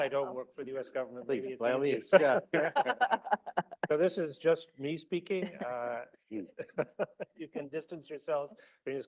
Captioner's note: laughter